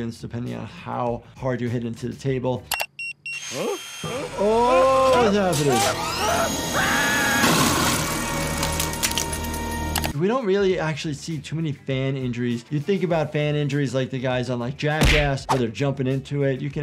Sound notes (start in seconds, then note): 5.5 screaming